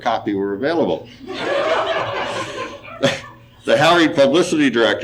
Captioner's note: audience laughing